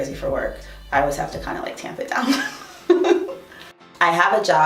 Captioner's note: laughs